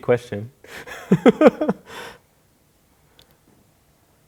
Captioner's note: laughing